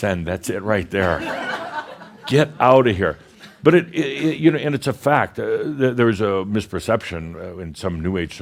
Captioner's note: some chuckles